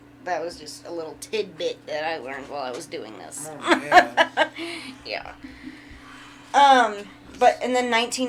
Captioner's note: sarcastic chuckling